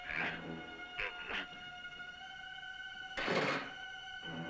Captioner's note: grunting; tense music